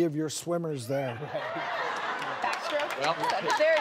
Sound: audience laughing

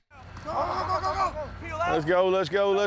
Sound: laughter

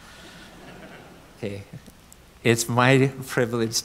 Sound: audience giggles

